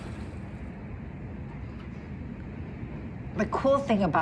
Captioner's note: wind blowing